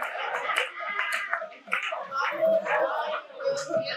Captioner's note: audience laughing